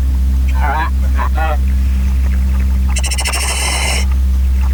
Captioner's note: oxygen pipe whirling; radio chatter